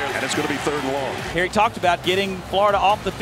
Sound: voiceover

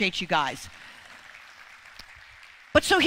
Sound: congregation clapping

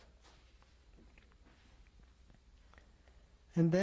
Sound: pauses for 3 seconds

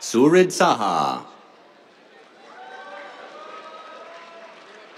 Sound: cheers, applause

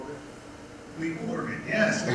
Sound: laugh

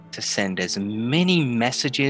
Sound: none

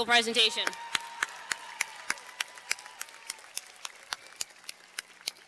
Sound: cheers and applause

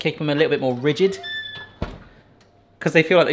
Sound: oven door creaks; oven door clunking

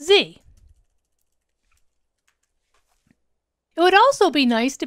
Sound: keyboard clanking

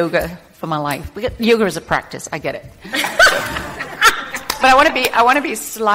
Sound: group laughing

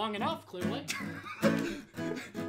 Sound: laughter

